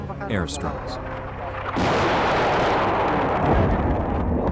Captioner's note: explosion